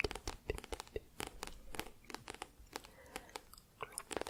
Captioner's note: tapping on book